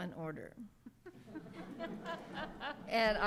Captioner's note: audience laughs